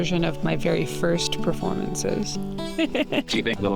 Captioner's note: Scout laughing